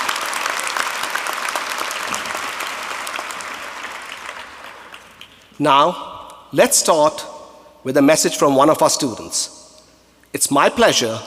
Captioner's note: applause